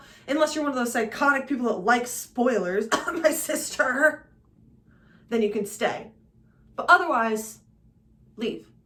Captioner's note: cough